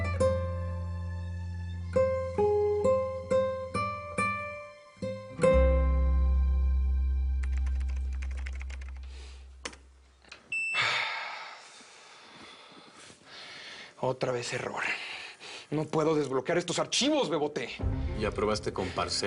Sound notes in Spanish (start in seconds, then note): 10.7 Suspiro